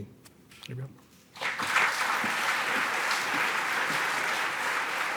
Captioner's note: applause